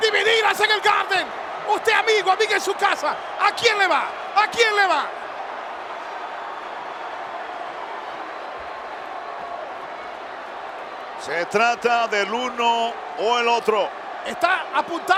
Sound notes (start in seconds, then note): 5.3 applause